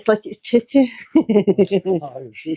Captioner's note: laughs